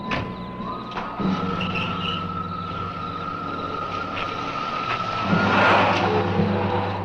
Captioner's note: engine rumbles; engine cranks